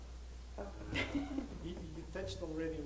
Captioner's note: laughs